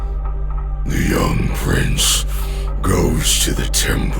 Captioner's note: squelching mutation sounds